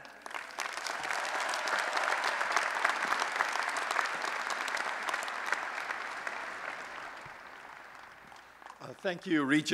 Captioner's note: applause